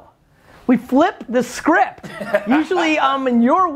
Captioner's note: Cha laughs